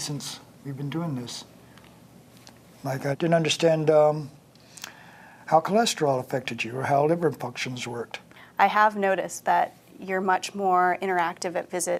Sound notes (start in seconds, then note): none